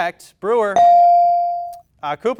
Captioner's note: bell dings